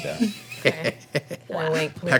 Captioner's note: laughing